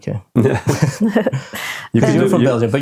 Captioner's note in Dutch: lacht